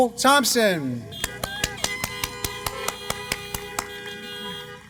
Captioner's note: applause